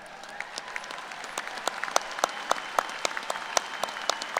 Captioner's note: applause